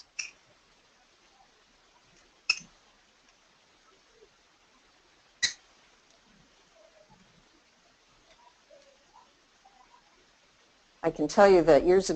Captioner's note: silence